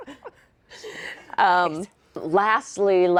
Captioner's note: laughing